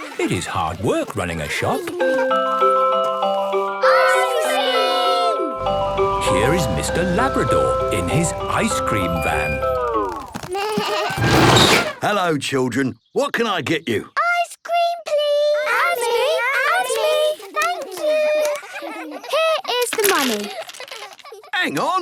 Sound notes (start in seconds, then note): 2.5 ice cream truck jingle; 10.1 bleating, trumpeting